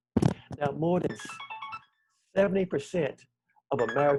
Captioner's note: phone rings